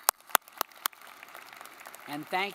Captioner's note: audience clapping